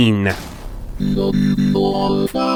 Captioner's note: crashing sound